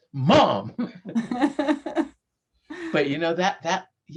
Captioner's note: both laughing